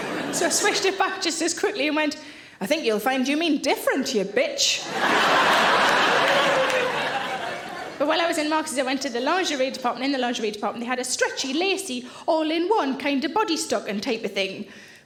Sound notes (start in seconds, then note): 0.0 audience laughing; 4.8 audience laughing